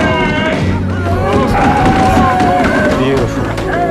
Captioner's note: yelling